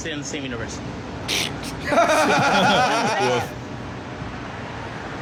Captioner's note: laughing; snorts